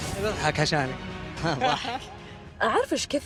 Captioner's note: laughing